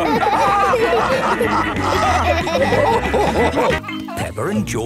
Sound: all laughing

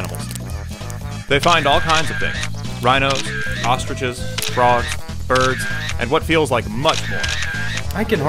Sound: camera shutter closing repeatedly

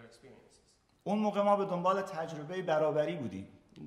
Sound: speaking in farsi

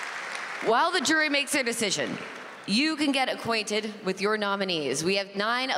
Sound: applause

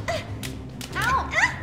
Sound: slaps thudding; both grunting

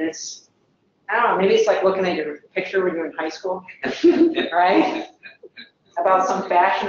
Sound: laugh

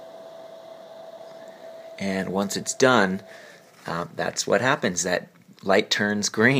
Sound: soft fan noises

